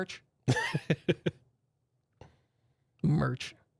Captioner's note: softly chuckling